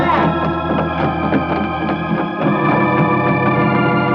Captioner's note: running footsteps